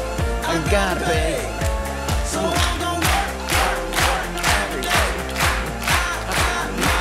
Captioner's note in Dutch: publiek klapt mee